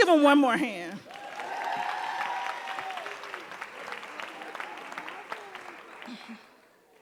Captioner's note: audience cheering and applauding